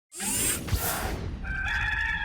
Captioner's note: logo whizzing; cock crowing